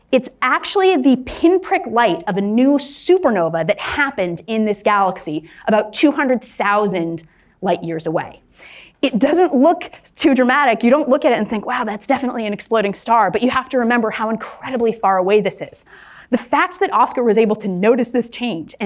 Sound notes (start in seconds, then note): none